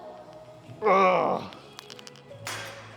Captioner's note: groans